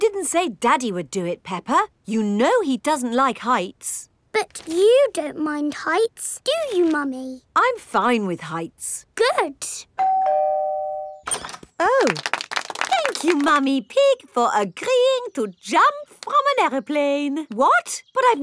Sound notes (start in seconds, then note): 10.0 doorbell ringing; 12.0 crowd applauding